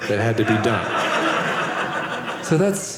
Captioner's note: audience laughing